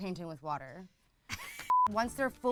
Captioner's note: laughs